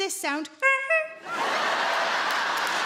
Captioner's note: Sarah imitates horn honking; audience laughing and clapping